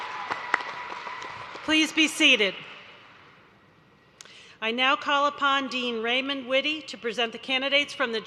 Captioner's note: applause